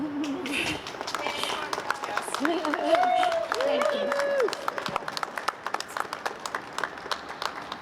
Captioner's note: applause